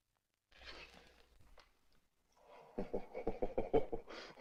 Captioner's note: chortling